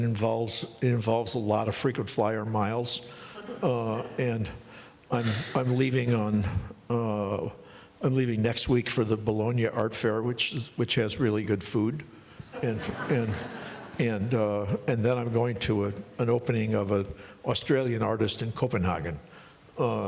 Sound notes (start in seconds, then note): 7.2 laughing